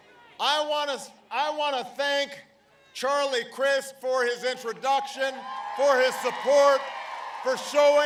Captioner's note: applause